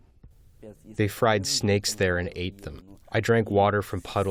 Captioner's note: through translator